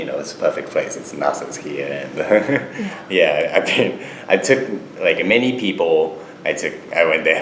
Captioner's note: laughs